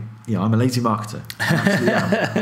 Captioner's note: laughing